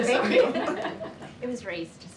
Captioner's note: laughs